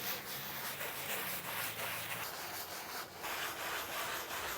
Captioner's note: paper scraping